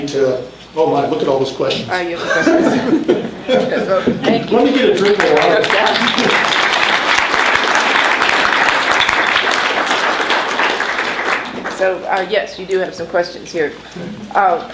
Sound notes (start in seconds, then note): 2.2 laughs; 4.6 applause